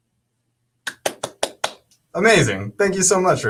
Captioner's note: claps